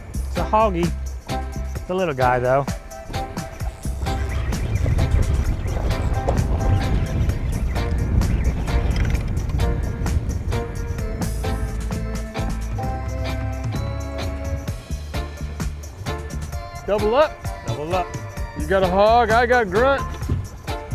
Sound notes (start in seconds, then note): 2.8 reel buzzing; 7.3 mellow tropical music